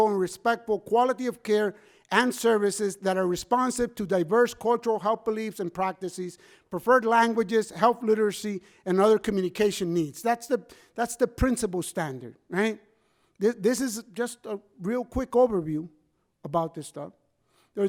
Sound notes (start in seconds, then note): none